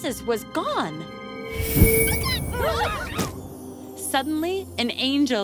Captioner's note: whoosh